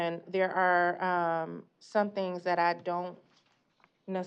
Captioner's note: none